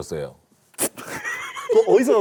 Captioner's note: pfft!